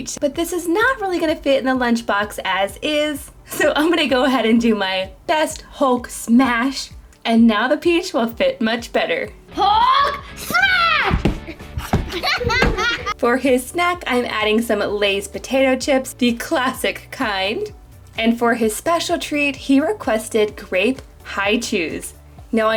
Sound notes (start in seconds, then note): 12.0 kids laughing